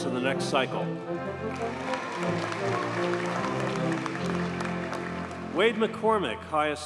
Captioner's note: audience cheers and applauds